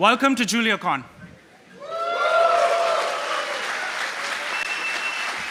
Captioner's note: cheering and applause